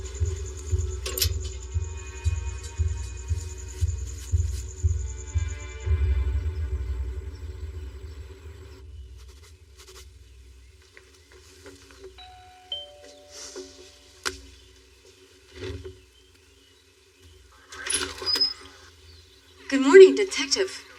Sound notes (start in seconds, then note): 10.8 footststeps; 12.2 doorbell riringing